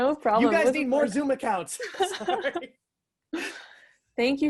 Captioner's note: laughs